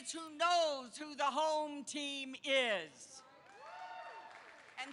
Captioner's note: applause